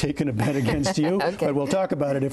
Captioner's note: laughter